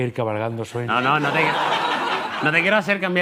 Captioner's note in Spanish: Risas